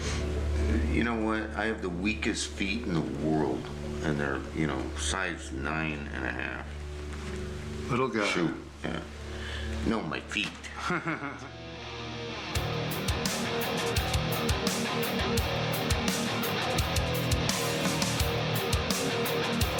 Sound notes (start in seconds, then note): 10.6 laughs; 12.5 upbeat music